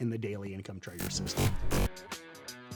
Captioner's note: electric buzzing; upbeat music